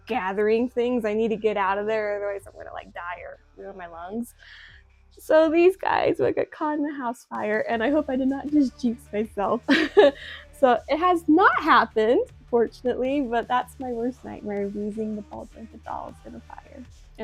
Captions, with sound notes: gathering things; I need to get out of there; otherwise I'm gonna like, die! Or ruin my lungs. So these guys would get would get caught in a house fire; and I hope I did not just jynx myself. *laughs* So, it has not happened! Fortunately; but that's my worst nightmare; of losing the ball jointed dolls in a fire.